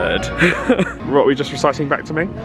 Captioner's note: laughing